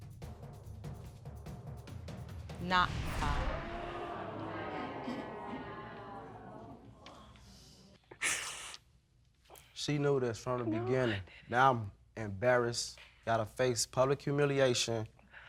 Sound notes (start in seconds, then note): 3.3 audience exclaiming; 8.1 sniffling